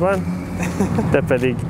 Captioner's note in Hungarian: nevetés